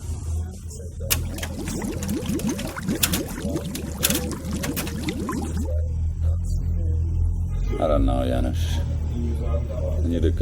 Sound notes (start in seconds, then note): 1.1 liquid burbling